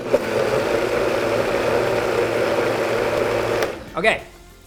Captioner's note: blender whirring